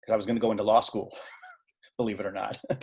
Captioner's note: laughing